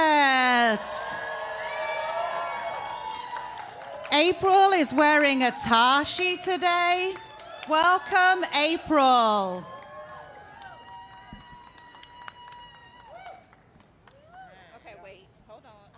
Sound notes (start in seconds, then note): 2.3 applause